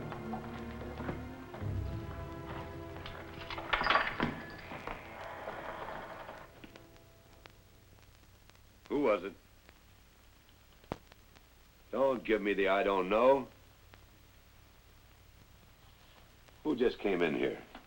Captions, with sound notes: (lock clinks) (gate creaks) Who was it? Don't give me the "I don't know." Who just came in here.